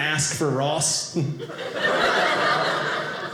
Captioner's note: audience laughing